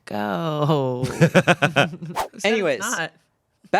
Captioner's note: laughs